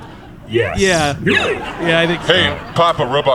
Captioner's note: flatly